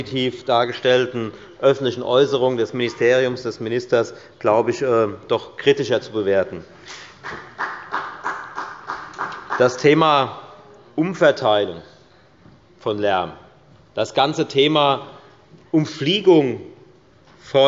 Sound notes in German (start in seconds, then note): 7.2 Beifall bei der FDP